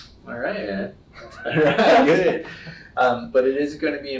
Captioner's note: both laugh